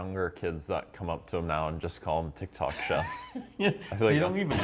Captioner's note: laughter